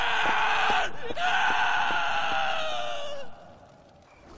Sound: horrible screams

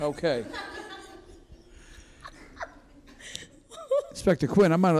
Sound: courtroom laughs

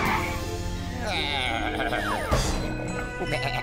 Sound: bleating

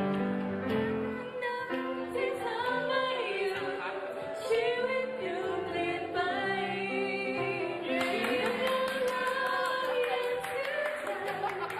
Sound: clapping

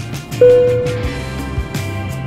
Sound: upbeat music; dinging

